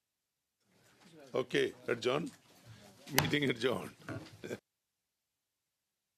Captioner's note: laughs